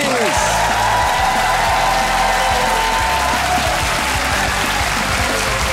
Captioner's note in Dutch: applaus en gejuich